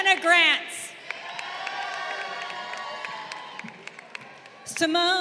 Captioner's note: crowd cheering